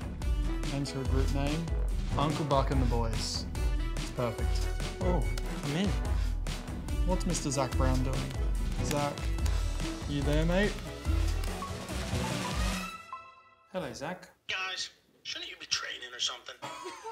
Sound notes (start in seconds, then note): 11.6 phone chiming; 16.6 laughter